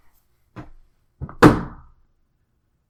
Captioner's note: loud Bang